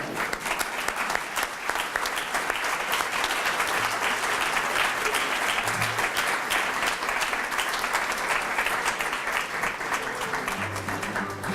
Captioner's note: applause